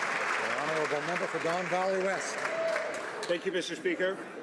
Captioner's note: some Applause